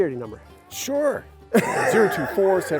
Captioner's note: laughing